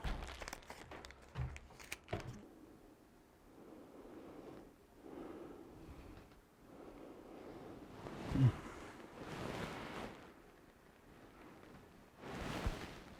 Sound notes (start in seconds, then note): 2.5 Mercer breathing softly; 7.7 Mercer grunting